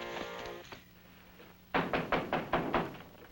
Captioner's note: knock